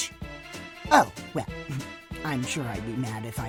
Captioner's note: chuckle